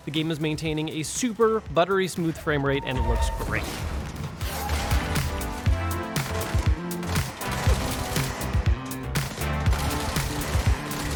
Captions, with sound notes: the game is maintaining a super buttery smooth frame rate and it looks works. (upbeat groovy music) (guns blasting)